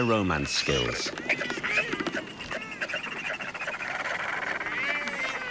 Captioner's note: birds chattering